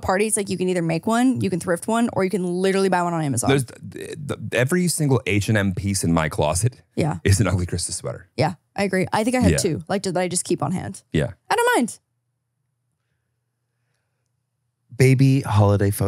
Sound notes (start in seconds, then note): 3.4 laughs